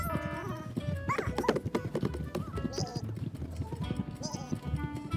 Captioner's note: hooves stomping